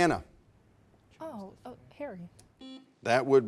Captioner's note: buzzer sounding